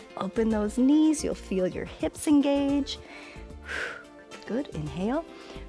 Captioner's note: exhales